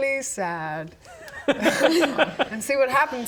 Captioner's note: unsad laughter